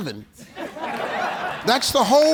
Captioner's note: audience laughs